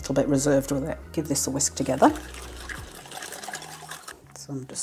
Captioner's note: whiskingwoosh